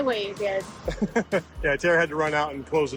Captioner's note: laughs